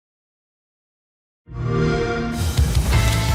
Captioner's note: xbox sound